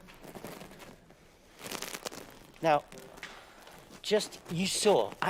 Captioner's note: plastic fizzling loudly